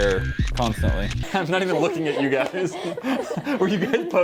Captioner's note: laughter